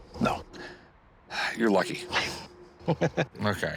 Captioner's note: chuckles